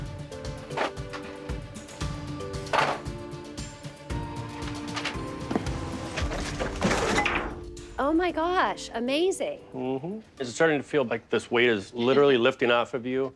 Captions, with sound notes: (objects clattering) (light suspense music) (objects clattering) - It has come a long way, like, oh my gosh, amazing. - Mm-hmm. Is it starting to feel like this weight is literally lifting off of you?